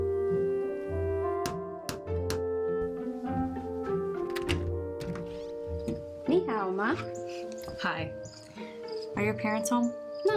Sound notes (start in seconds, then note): 2.2 door knocker; 4.0 door unlocks and opens